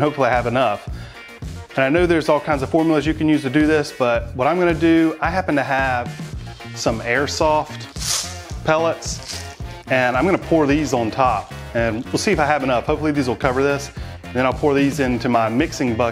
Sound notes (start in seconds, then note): 4.2 pellets clattering; 4.2 upbeat rock music